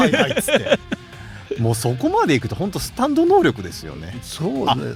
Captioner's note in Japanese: 笑い